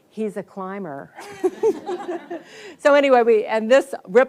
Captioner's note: audience laughs